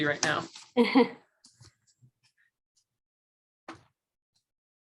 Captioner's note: chuckles